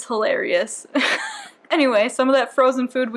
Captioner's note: wheeze